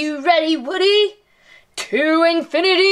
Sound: imitates Buzz Lightyear's voice

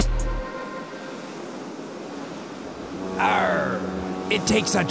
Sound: waves crashing

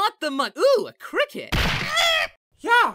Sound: Bubbles screeches; thud

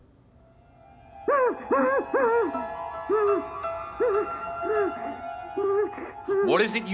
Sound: muffled cries

